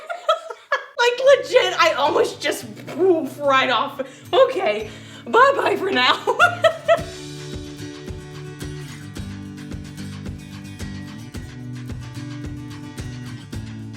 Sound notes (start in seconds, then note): 5.1 laughs; 7.2 upbeat music